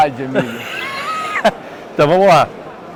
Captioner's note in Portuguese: risos